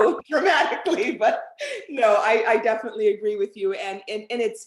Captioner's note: laughter